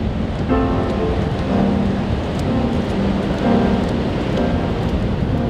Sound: wet footsteps

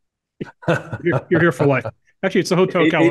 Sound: laugh

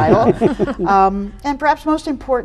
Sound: group chuckles

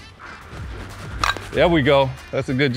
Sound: ball cracks

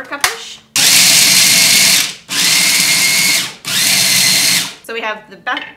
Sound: food processor whirs

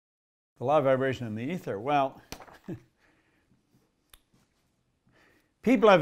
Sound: laughs

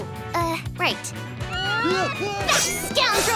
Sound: grunting

